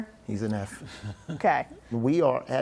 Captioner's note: laughter